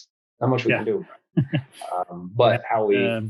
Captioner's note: chuckles